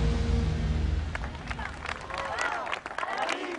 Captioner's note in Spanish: Aplausos